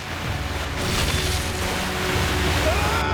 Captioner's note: splashing